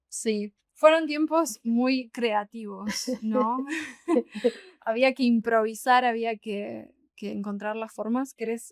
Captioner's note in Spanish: risas